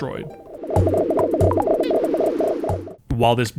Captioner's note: buggy menu sounds